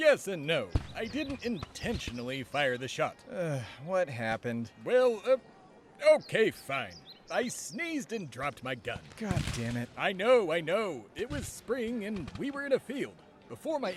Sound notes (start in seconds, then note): 3.4 sigh